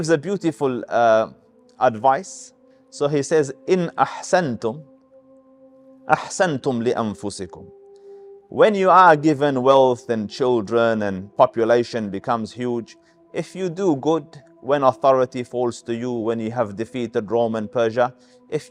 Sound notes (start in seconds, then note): 3.6 Arabic